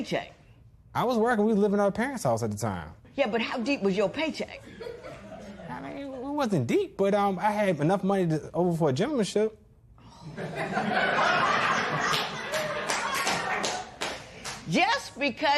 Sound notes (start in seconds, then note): 4.6 laughter; 10.2 laughter; 12.0 clapping